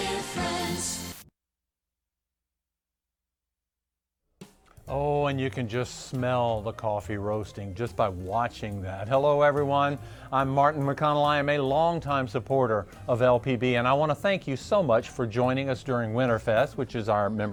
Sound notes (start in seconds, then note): 1.1 TV static